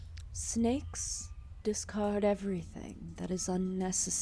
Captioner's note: none